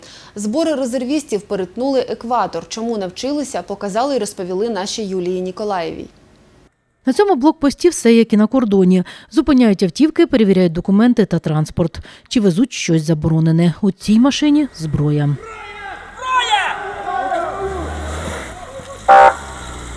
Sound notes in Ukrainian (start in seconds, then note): 15.4 кричать: Зброя!!! Зброя!!!; 19.0 сигнал сирени